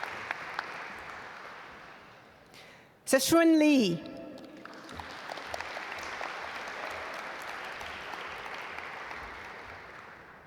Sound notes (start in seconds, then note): 4.4 audience applaud